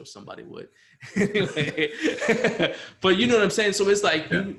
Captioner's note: laughs